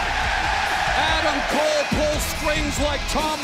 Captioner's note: cheers and applause